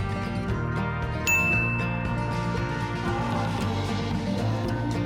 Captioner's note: bell dinging